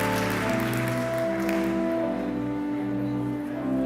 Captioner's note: audience cheering